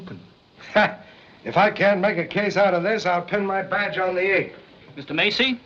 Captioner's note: laughs